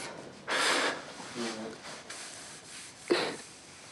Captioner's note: sobs softly